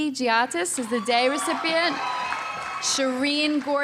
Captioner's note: audience cheering